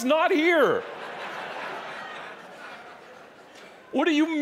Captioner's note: audience laughing